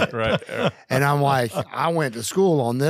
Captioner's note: laugh